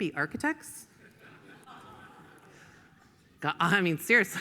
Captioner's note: audience laughs